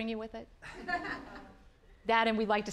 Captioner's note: audience laughing